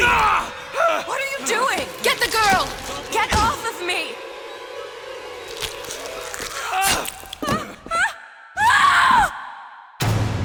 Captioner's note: screams